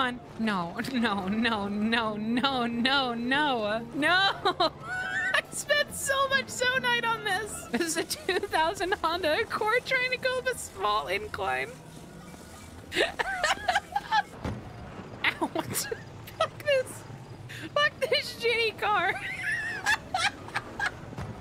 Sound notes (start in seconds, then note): 4.3 laughs; 12.9 laughter; 15.6 laughter; 19.1 laughter